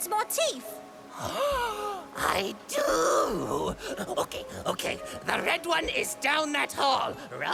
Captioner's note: gasps dramatically